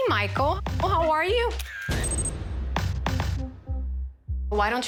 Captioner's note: camera shutter snapping